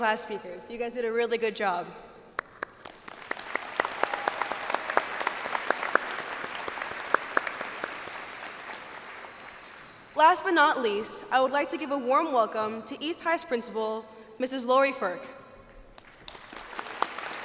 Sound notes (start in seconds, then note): 2.3 applause; 15.9 applause